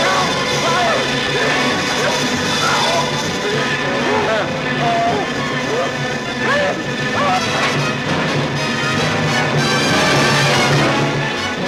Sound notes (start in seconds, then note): 0.0 yelling; 3.4 groaning; 6.6 yelling; 8.3 dramatic music